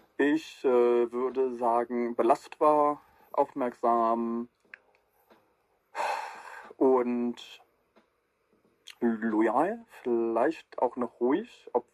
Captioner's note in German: seufzt